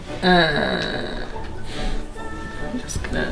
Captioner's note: groans